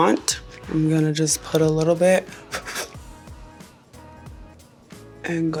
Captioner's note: blowing